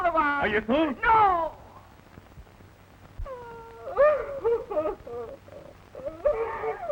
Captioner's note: she cries